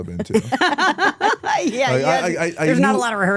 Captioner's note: both laughing